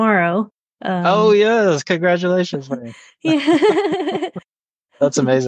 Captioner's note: laughs happily